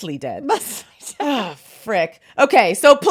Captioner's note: laughs